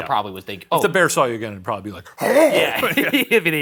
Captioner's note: growls